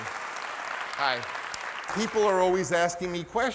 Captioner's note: audience clapping